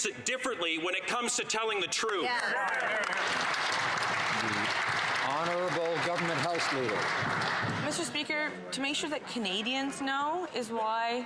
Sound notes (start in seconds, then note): 6.2 some Applause